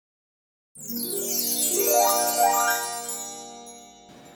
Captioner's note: chimes sound